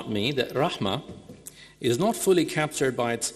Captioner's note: speaking in foreign language